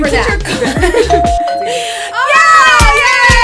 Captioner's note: doorbell rings